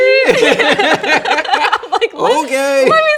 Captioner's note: both laughing